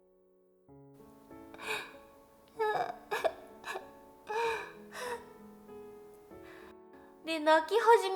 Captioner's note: crying